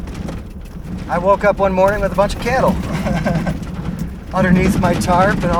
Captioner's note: laugh